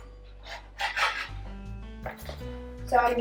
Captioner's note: scrapping sound